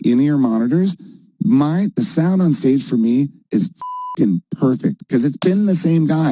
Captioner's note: beep